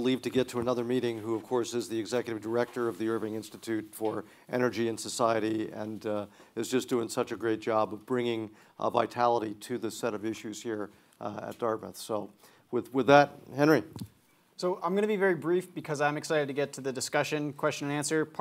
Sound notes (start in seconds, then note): none